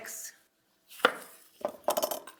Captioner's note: knife chopping; knife clanking